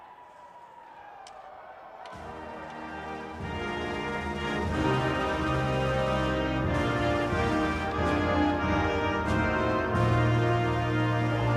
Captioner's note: speaking FRENCH